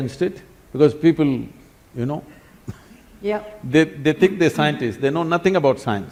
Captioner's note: laughs